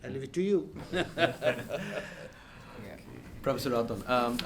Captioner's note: panelist laugh